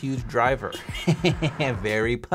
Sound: chuckling

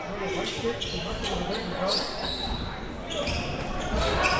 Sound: crowd cheering

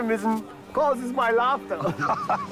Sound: laughing

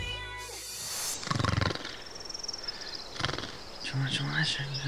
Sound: snoring

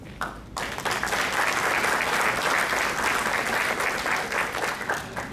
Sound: crowd clapping

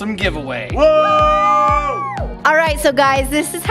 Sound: all cheering

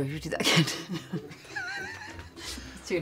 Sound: both laugh

